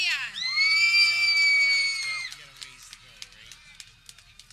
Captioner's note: people cheering